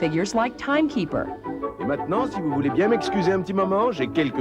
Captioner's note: speaking in French